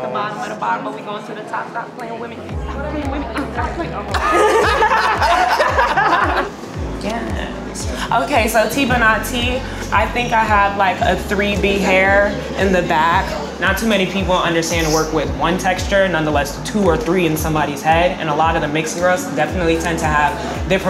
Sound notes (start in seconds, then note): 4.0 laughing